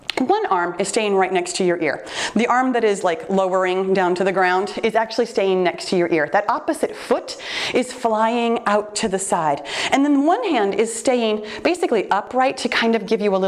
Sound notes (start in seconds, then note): none